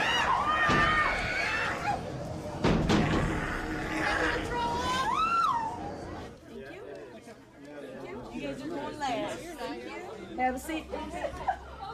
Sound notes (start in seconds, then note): 0.0 screaming, yelling; 2.4 pounding